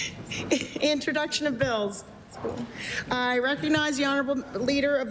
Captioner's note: laughter